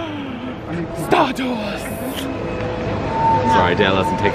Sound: gasps dramatically

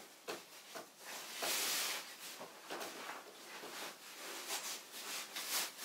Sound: cords swoosh through fabric

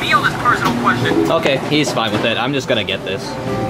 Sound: phone chiming

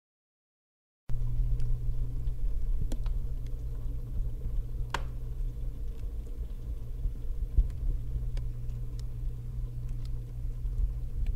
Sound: sound inside of a freezer

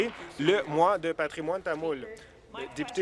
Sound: applause

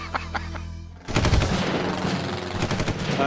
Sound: laughs; gunfire

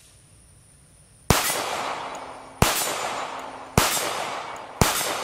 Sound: gunshots booming

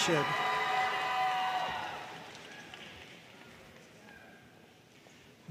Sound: audience cheering and applauding

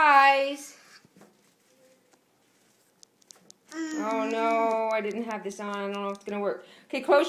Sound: mumbling while fiddling with camera

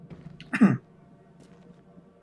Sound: coughs

